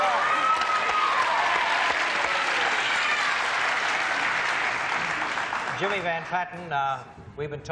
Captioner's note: applause, cheering